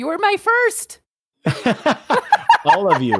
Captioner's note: laughter